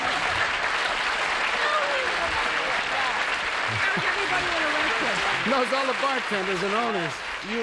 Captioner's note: applause